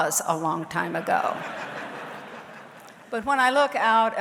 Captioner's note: audience laughs